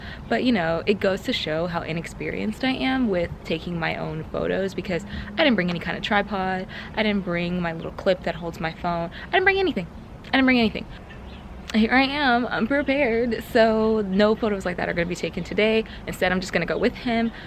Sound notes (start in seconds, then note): 11.6 sing-song